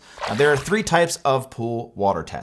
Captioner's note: water splashes